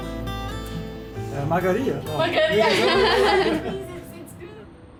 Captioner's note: in Georgian; laughing